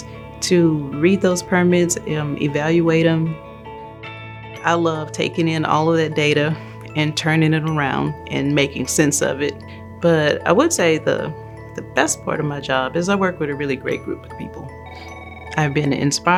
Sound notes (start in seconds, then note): 14.3 phone rings